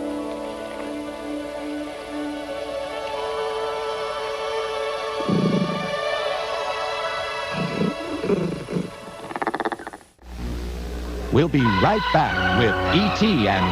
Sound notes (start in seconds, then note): 0.1 soft music; 5.2 groaning softly